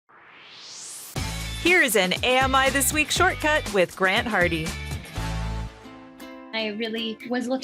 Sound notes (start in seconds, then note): 0.0 swoosh